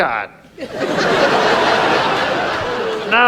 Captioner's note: audience laughs